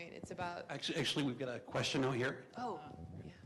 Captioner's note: voiceover